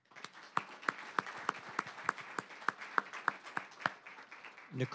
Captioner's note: applause